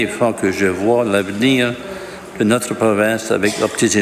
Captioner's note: speaking French